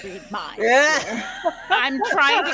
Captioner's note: group laughs